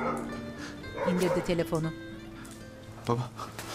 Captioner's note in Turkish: Köpek havlama sesi